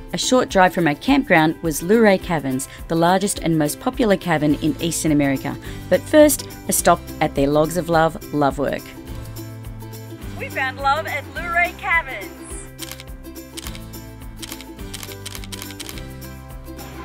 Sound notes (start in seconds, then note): 14.4 camera shutter